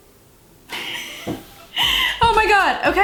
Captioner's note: laughs